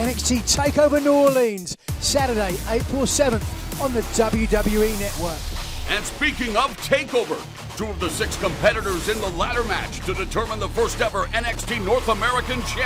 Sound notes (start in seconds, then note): none